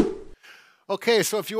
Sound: air whooshes

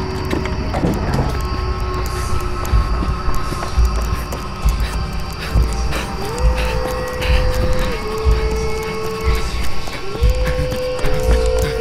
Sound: scary Noises :3

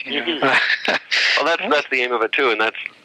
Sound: laughter

